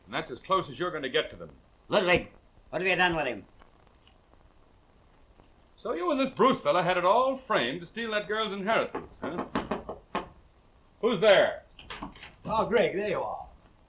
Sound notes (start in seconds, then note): 8.9 knuckles rapping